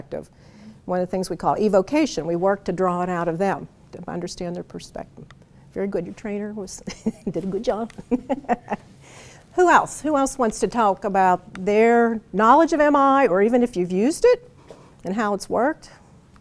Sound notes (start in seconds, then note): 7.9 laughs